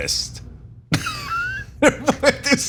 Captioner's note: laugh